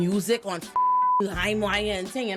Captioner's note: beep